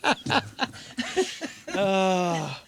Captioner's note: laughing